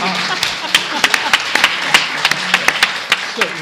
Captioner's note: applause